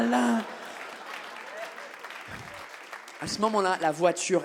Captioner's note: audience laughs and claps